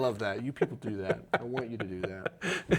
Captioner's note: laughs